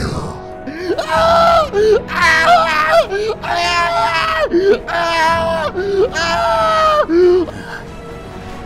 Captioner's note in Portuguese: gritos